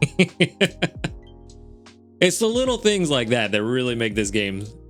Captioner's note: laughs